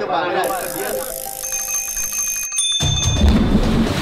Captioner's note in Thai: เสียงพูดคุย; เสียงกริ่งจักรยาน